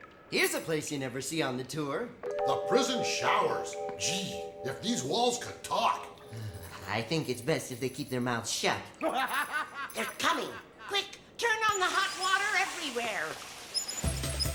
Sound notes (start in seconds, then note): 9.0 laughter